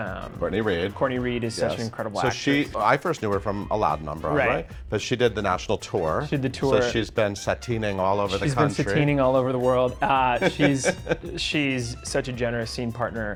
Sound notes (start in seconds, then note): 10.0 laughs